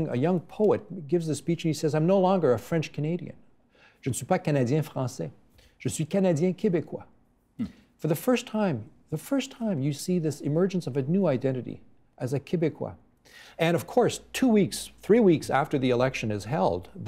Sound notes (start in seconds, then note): 5.3 speaking in french